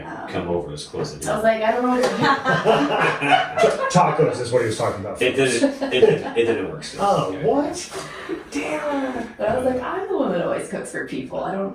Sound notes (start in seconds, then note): 2.9 laughing